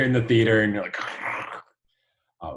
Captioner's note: imitates sound of ripping